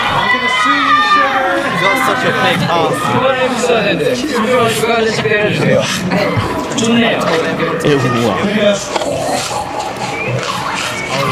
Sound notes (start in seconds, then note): 1.4 cheers